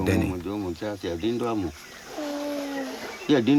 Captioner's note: speaking native language